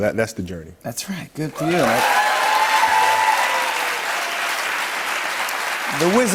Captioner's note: cheers and applause